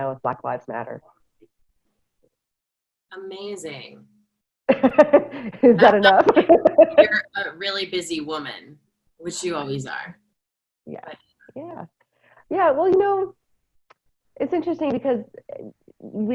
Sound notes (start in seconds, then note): 4.7 laughter